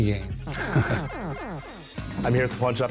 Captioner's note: chuckles; video game beeps